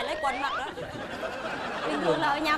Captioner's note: laughing